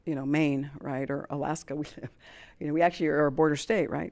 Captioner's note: chuckles